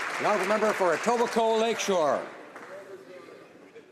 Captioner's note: some Applause